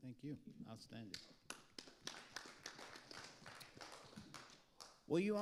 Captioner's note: audience applauding